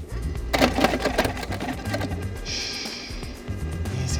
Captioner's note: ice cream machine buzzing